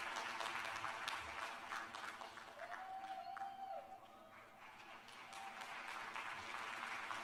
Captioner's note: applause